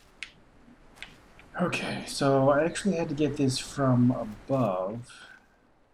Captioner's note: sighing